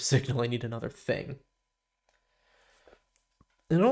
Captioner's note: silence